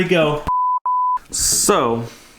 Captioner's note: camera beeps